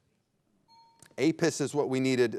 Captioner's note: bell dinging